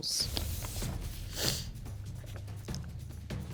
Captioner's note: sniffles